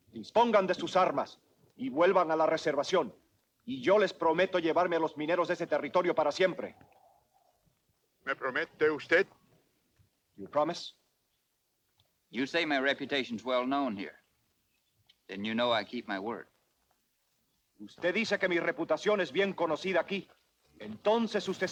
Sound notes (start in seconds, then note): 0.2 Ramirez speaks Spanish; 8.3 Victorio speaks Spanish; 17.9 Ramirez speaks Spanish